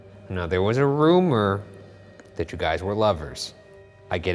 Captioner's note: none